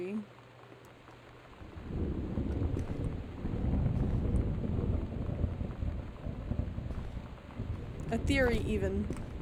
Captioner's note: loud Thunder